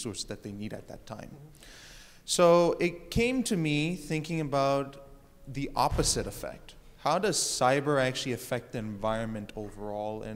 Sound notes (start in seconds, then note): none